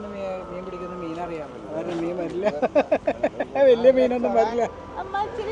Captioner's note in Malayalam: പൊട്ടിച്ചിരി